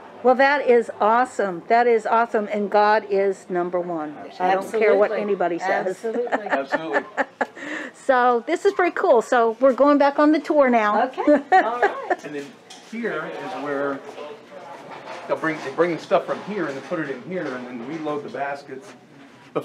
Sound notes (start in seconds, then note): 6.2 laughs loudly; 11.2 chuckles